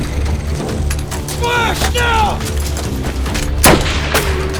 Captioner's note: car approaching; shouting in german; shooting